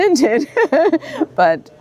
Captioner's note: laughs